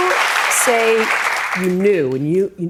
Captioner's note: applause